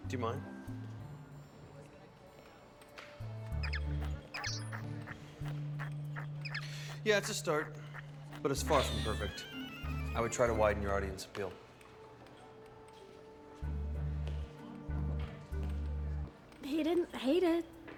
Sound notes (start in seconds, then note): 1.7 game beeping and blipping